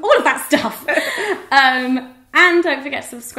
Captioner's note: laughter